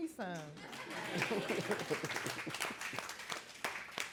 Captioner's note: audience clapping